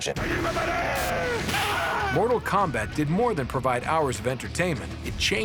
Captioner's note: shouting